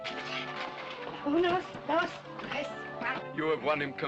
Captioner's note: in spanish